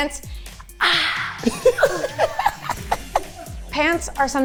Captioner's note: everyone laughing